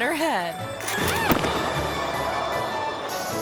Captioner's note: skate clinks; skater thuds; gentle playful music